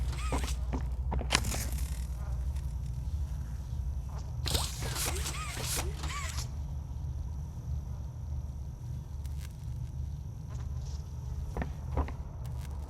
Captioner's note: footsteps